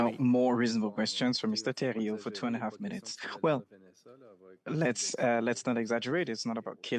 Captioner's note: speaking French